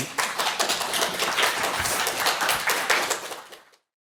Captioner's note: audience applauds